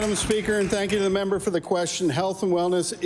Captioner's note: applause